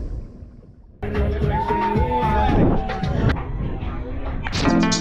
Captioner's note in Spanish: charla alrededor